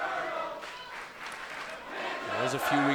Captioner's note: fans chanting